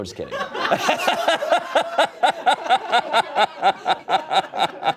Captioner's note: audience laughing